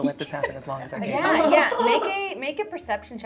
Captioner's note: laughing